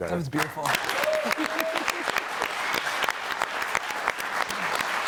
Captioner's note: audience applauding